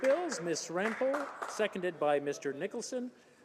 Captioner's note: applause